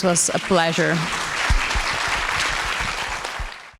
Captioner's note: audience applauding